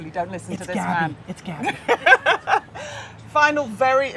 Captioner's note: laughing